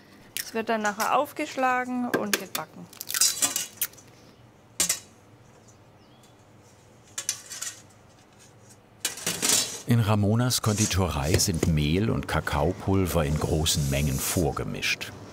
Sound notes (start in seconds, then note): 2.9 eggshell cracking, clinking; 5.3 birds chirping; 7.0 clinking